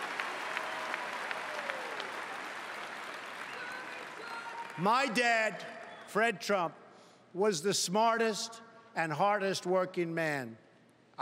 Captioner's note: cheering and Applause